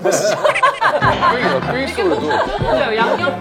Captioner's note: confident